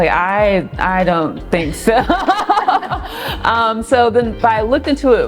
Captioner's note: both laughing